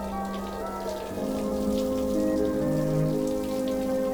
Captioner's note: water runs